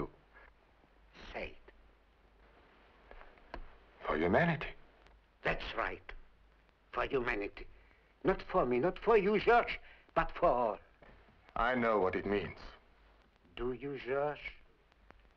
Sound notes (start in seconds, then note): none